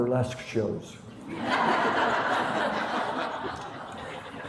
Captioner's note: laughter